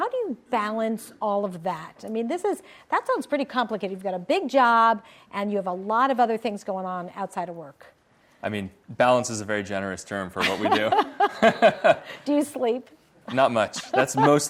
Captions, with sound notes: How do you balance all of that? I mean, that sounds pretty complicated. You've got a big job and you have a lot of other things going on outside of work. - Balance is a very generous term for what we do. (everyone laughs) - Do you sleep? - Not much.